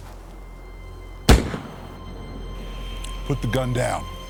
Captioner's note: gun fires